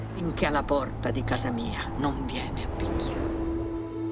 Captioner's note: wind blowing